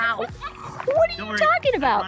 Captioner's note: laughing